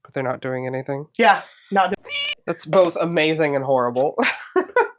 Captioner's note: meow